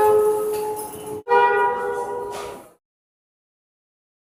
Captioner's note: air Horn